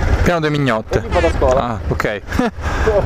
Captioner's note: ahahahah